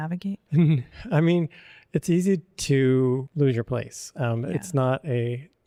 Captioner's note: chuckles